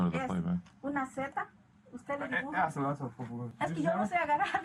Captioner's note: speaking Spanish